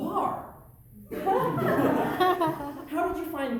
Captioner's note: audience laughter